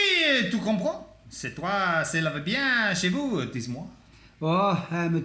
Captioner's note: speaking French